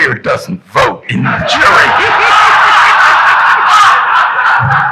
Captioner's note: audience laughing